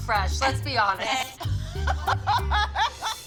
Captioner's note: laughter; tense music